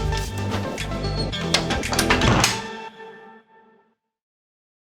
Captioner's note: upbeat music; door latches